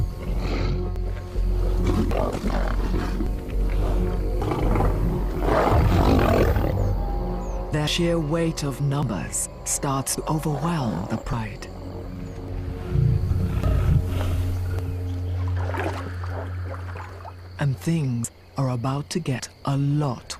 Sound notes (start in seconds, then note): 1.7 growls; 4.4 roars